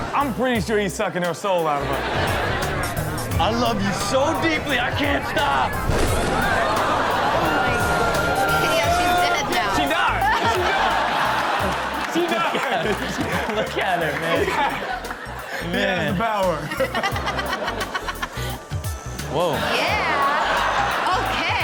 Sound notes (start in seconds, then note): 10.5 everyone laughs